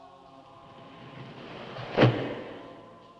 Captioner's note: thud